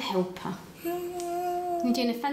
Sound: happy sounds

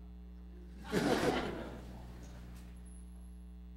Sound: laugh

